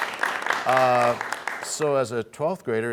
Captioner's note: applause